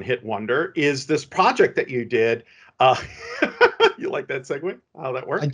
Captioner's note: laughs